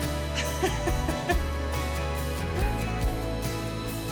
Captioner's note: speaks in foreign language; laughing